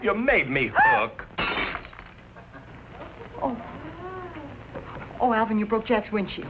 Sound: gasps; glass shatters

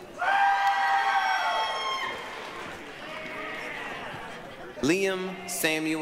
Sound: applause, cheering

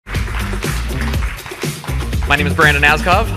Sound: crowd applauding

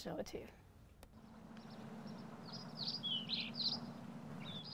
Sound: birds chirp

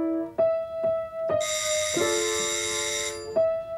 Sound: doorbell

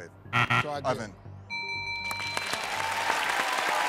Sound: buzzer; bell rings

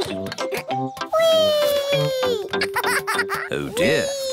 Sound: laughs; laughs

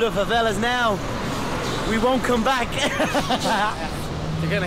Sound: laughing

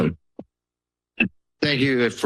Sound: silence

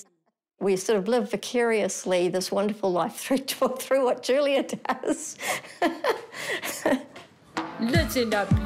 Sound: laughs

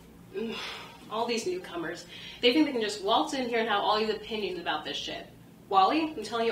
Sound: sighs

